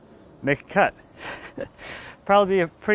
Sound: laughing

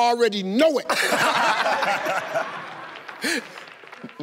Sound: laughter

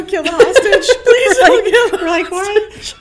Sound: laughing

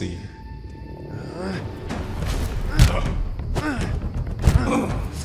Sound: Batman grunts

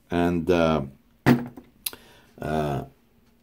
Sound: metal box banging

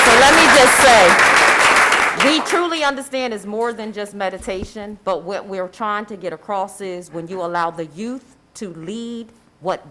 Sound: applause

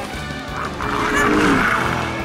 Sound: growling; yelling

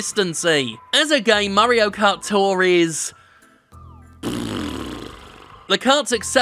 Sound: blows raspberry

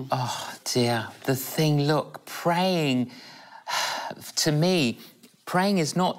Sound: sighs

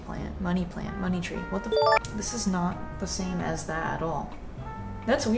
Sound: chime

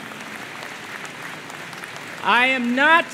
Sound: applause

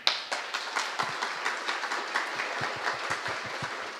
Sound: applause

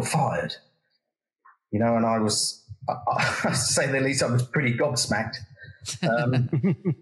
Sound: laugh

